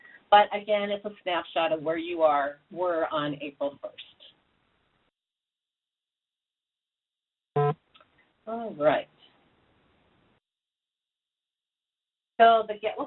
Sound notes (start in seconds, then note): 7.5 beep